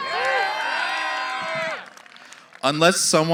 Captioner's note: cheering